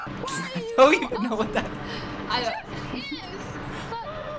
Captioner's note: laughs